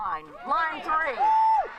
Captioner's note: cheering and applause